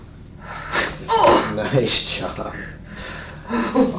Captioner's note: patient grunts